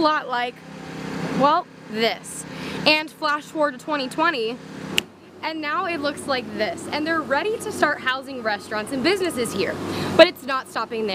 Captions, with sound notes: INVESTMENT MANAGMENT TO FIND OUT MORE..... <<6 YEARS THE AREA SURROUNDING ACU LOOKED LIKE A WHOLE LOT OF THIS AND FLASH FORWARD TO 2020 *snap* IT LOOKS LIKE THIS. AND THEY'RE READY TO START HOUING RESTURANTS